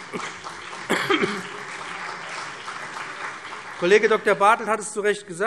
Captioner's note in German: Beifall BÜNDNIS 90/DIE GRÜNEN und CDU